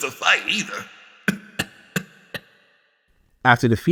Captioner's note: coughs